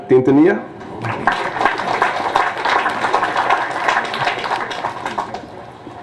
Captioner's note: applause